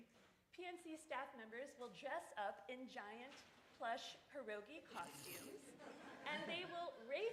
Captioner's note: laughter